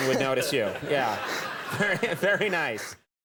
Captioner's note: crowd laughs